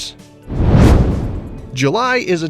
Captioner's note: meteor whooshes